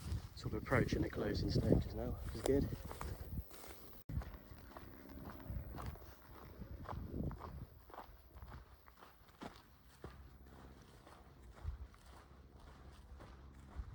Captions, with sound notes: sort of approaching the closing stages now which is good (footsteps)